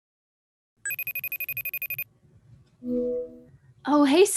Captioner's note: cell phone ringing